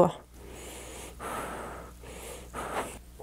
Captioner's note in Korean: 킁카 킁카